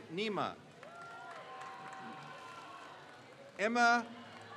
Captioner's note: crowd cheers